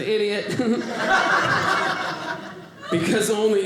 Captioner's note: audience laughing